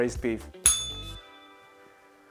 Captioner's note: bell rings